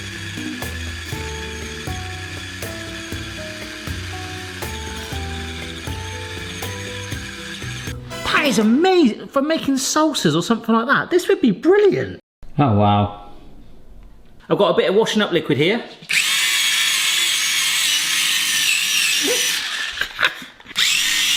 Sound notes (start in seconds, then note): 0.0 motor whirring smoothly; 16.1 motor whirring; 20.1 cackling